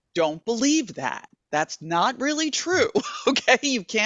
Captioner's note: chuckling